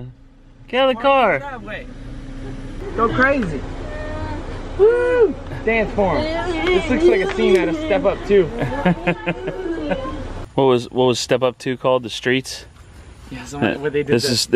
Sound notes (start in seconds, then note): 3.0 laughs; 8.4 laughs